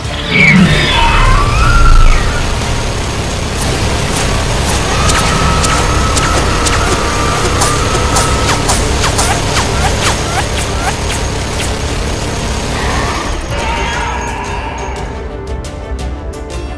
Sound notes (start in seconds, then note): 0.3 guns firing; 2.8 shot sounds; 12.3 intense music